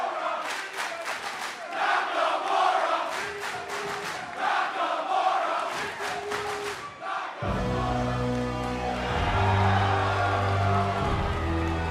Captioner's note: crowd cheering